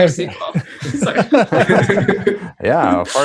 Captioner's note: laughter